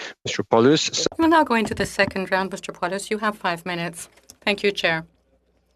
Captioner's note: speaking French